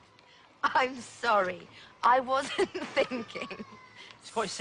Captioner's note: laughing